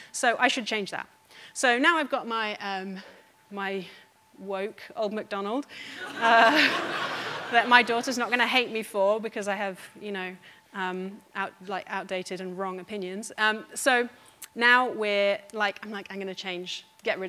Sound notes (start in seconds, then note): 5.9 audience laughing